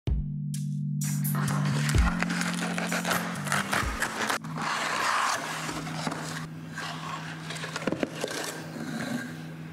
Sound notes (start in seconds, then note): 2.9 cardboard ripping sounds; 4.9 more cardboard sounds